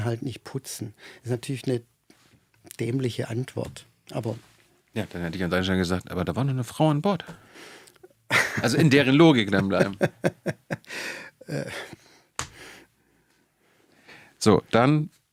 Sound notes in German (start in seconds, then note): 12.7 gelächter; 13.9 japst